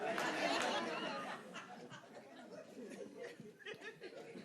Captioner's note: audience laughing